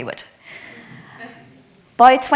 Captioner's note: attendee chuckles